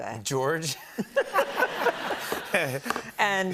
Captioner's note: laughter